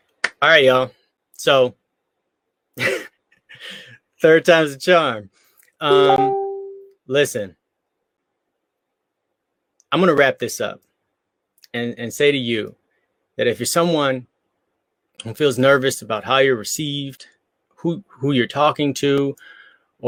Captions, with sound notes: All right, y'all so third time's the charm. (beep) Listen, I'm gonna wrap this up and say to you that if you're someone who feels nervous about how you're received, who you're talking to